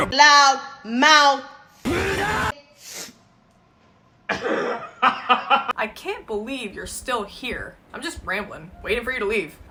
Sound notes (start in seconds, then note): 3.1 silence; 4.3 man laughing in background